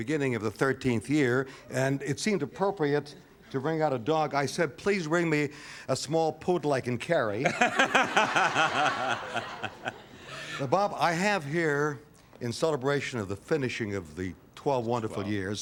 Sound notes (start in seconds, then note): 7.4 laughter